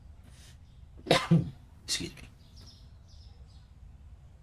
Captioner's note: coughs